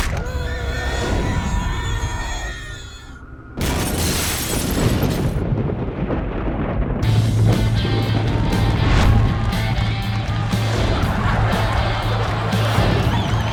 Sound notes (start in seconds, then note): 0.0 screaming; 0.0 eerie music; 3.6 glass shattering; 4.4 thunder cracking; 7.9 cheering; 8.6 rock music